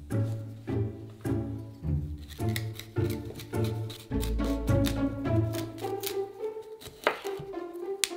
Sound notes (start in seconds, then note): 2.1 knife chopping